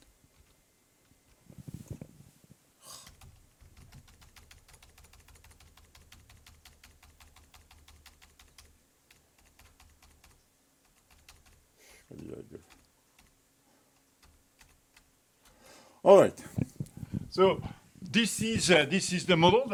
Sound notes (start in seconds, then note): 0.2 keyboard buttons clicking; 12.2 mutters; 14.5 keyboard buttons clicking